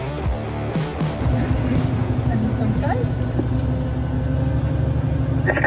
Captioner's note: conversation in German